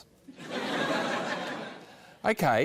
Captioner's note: laughter